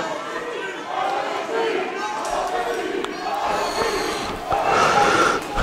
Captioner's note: crowd